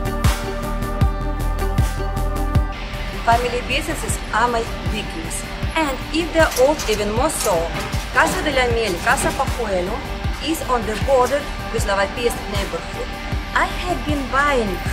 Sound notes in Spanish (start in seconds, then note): 11.2 Ruido de la Calle